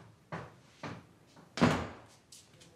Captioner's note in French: Elle claque une porte